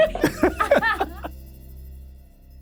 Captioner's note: both laugh